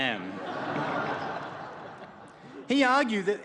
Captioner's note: laughter